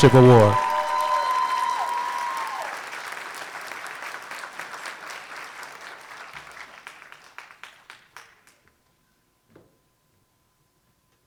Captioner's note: applause